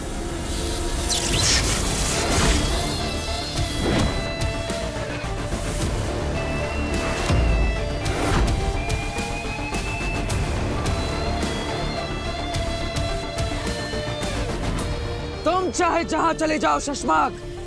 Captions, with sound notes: [whirring sound] No matter where you go Shashmaag,